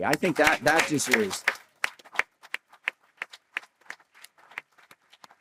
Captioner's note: applause